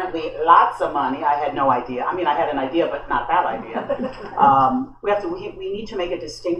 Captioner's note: laughter